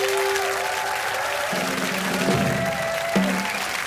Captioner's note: applause